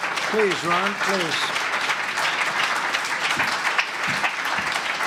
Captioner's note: applause